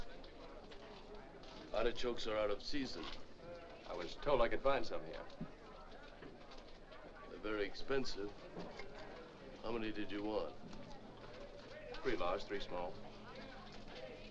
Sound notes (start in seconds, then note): none